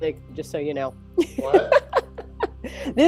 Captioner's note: laughs